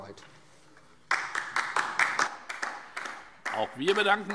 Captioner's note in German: Beifall DIE LINKE